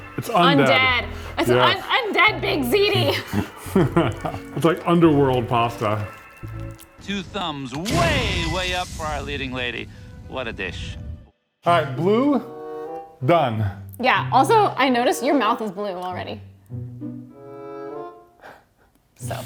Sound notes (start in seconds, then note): 2.8 both chuckle; 16.9 curious music